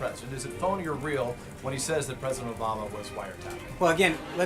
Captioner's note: raucous laugh track